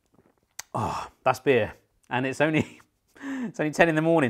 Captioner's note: chuckles